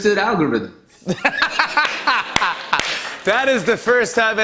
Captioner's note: laughter